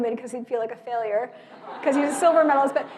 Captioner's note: laugh